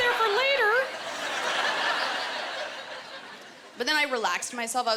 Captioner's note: laughter